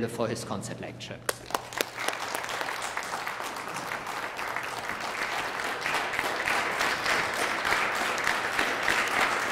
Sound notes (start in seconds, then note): 1.2 applause